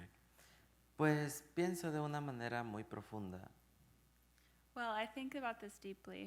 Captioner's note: speaking in Spanish